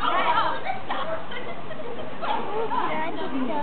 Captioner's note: mumbles of protest